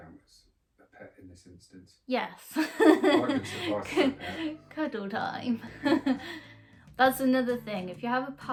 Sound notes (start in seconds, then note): 2.5 laughs